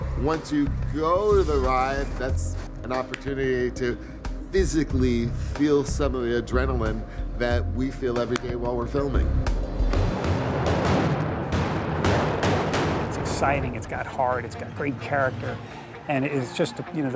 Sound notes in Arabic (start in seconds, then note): 10.0 انفجار القنابل